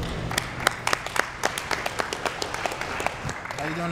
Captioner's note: applause